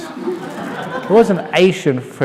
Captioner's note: laughter